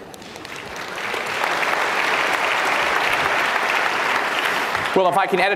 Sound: audience clapping

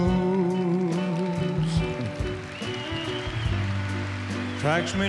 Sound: audience applause ripples

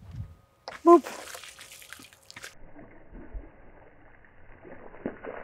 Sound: water sloshes

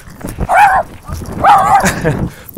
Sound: woof woof

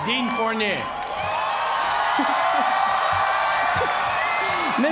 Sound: cheers and applause

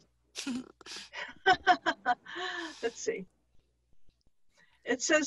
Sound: laughs

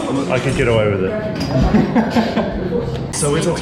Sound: laughing

